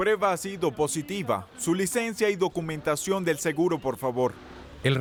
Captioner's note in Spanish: Audio hablado en francés